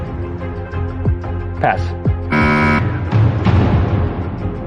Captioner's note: buzzer sounds